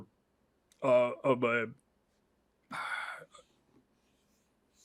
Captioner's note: sighs